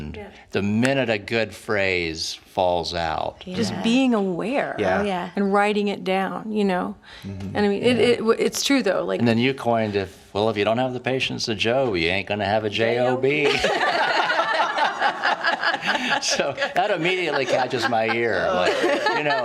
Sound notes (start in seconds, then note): 13.2 laughing